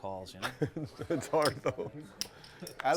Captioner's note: laugh